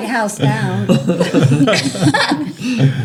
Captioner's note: laughter